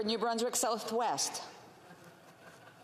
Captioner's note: speaking FRENCH